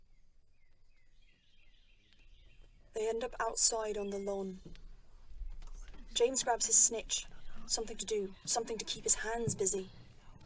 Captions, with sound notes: [Birds chirping] They end up outside on the lawn. [students whispering] James grabs his snitch—something to do, something to keep his hands busy.